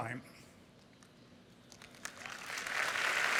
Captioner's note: applause